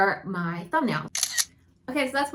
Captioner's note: camera clicking